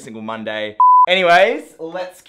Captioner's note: beeps